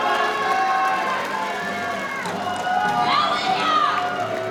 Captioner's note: audience cheering; crowd cheering